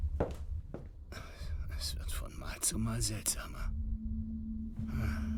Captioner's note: whispers